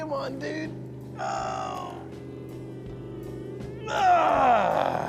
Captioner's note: groaning